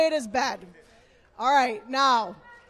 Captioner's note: chanting